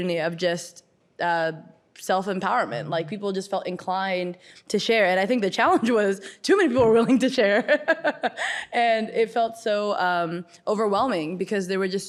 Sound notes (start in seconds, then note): 7.7 laughs